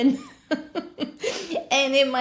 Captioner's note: chuckles